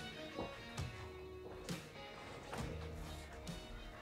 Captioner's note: footsteps thudding